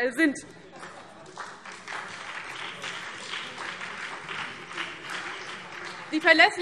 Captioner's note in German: Beifall CDU und BÜNDNIS 90/DIE GRÜNEN